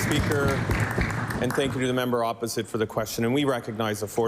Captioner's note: applause